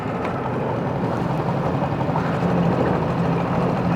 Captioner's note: motor running